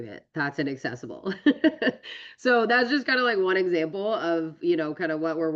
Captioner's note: laughs